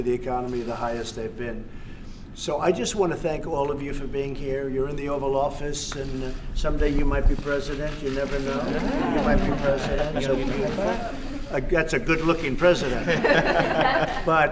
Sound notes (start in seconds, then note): 8.6 laughter; 12.8 laughter